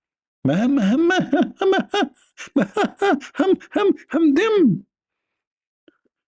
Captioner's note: Ketawa